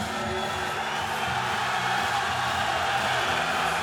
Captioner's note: cheering